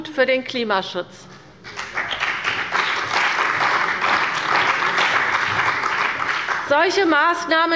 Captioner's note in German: Beifall bei der CDU und dem BÜNDNIS 90/DIE GRÜNEN